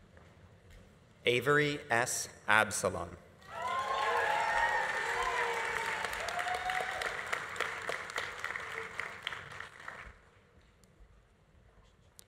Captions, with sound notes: Avery S. Absolon. (audience applauding) (audience cheering)